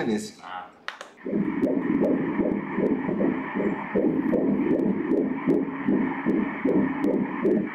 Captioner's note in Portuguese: batimentos cardíacos